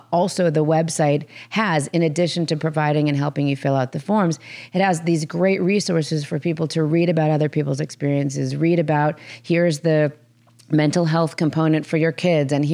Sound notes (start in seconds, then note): none